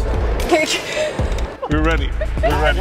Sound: laughing

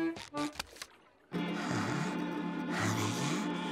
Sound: breathing deeply

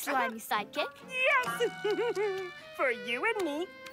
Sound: giggles

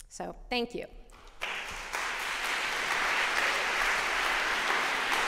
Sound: applause

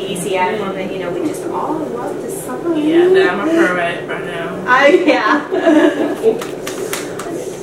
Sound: laughing

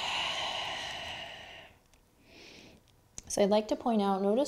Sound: heavy breathing

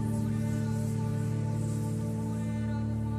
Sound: melodic whispering

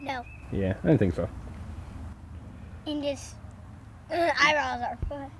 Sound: voiceover

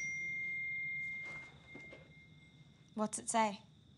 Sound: phone pings

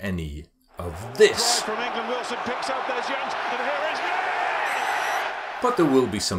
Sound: announcer talking in the background

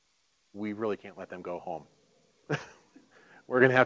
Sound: laughing

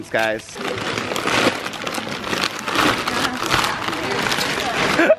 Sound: paper crinkling

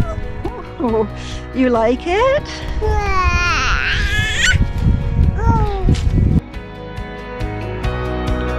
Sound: baby cooing

